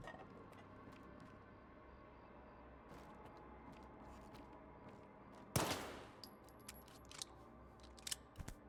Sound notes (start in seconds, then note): 5.5 gun firing